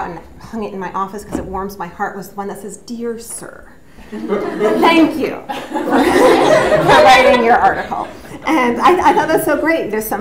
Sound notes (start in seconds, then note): 4.1 audience laughs; 5.4 laughs